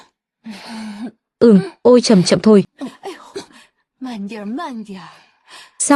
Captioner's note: thở dài